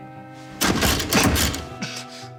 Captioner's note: keys thunk